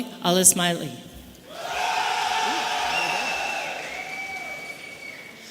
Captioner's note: audience cheering